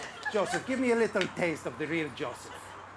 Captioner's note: audience chuckles